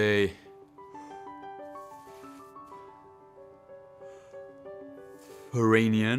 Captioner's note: careful breathing